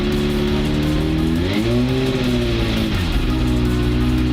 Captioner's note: engiine Revving